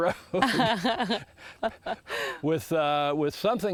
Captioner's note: laughs